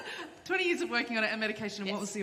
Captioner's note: laughter